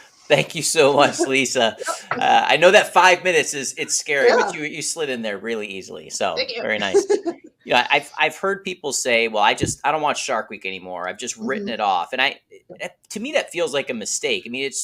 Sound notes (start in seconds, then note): 6.4 laughs